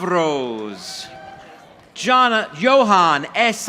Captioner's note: audience applauding